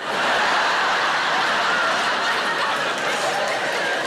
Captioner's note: audience laughing